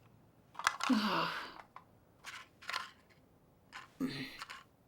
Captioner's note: pills jiggling